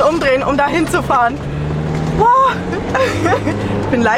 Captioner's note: laughter